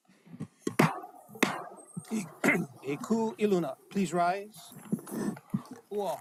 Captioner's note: gavel bangs twice